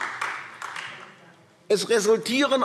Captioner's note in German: Beifall AfD